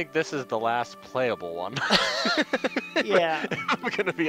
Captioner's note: both laugh